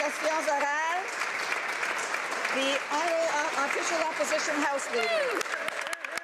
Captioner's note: applause